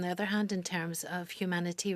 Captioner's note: speaking French